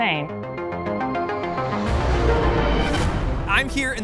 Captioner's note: dramatic synth music; airplane whooshing